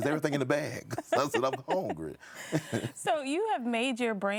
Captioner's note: chuckles